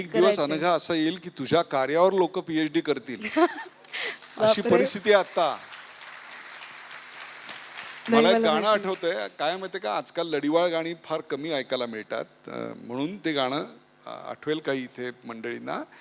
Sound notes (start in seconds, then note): 4.8 audience applauds